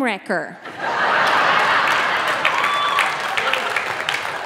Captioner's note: audience laughing